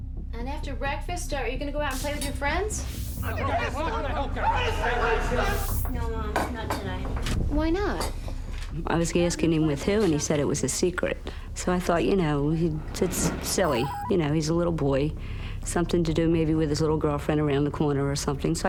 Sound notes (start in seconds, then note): 3.2 shouting